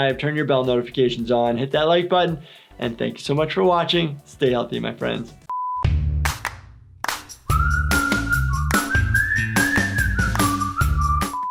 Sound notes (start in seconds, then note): 5.5 beep; 5.8 upbeat music